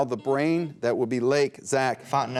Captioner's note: buzzer beep